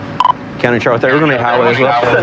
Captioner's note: chatttterer